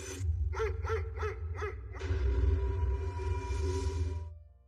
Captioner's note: dogs barking